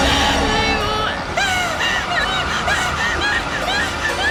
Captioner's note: screams